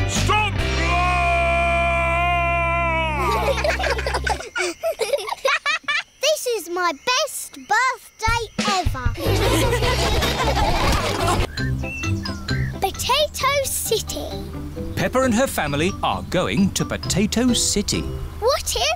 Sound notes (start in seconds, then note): 3.1 children giggle; 9.2 all laughing